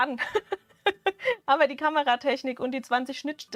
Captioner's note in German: Gelächter